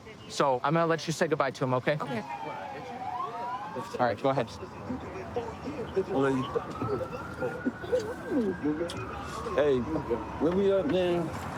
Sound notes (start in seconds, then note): 6.9 kissing noises